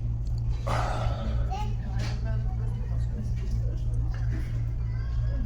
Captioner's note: sighing